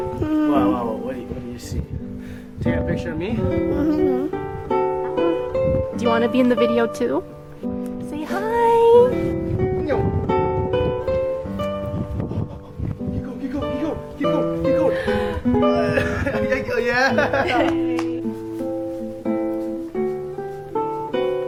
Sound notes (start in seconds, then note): 17.0 laughing